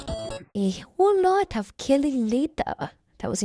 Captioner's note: in a weird accent